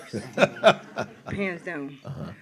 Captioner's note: laughs